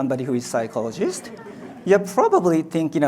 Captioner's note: audience laughs